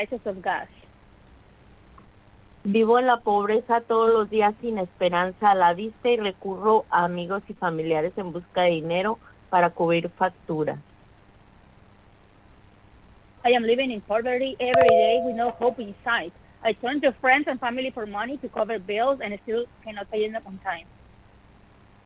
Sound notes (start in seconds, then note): 0.3 speaking in spanish; 8.7 speaking in spanish